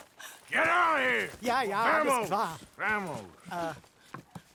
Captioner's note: in German; in Spanish; in German